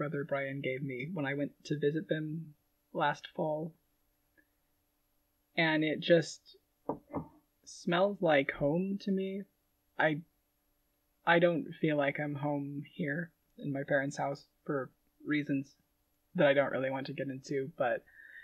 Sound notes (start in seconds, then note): 6.9 setting jar down